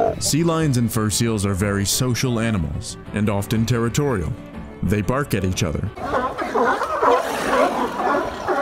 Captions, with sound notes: Sea lions and fur seals are very social animals. And often territorial. They bark at each other. [sea lions barking] [sea lions snarling]